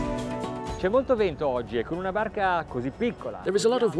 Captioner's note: speaking in foreign language